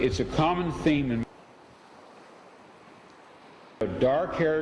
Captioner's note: ocean waves